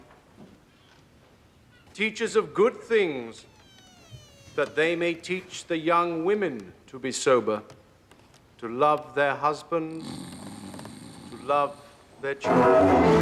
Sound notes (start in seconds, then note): 9.8 choir snoring